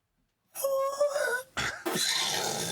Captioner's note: laughing